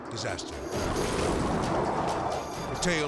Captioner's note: jet roaring; dramatic music